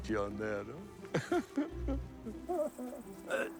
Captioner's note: laughs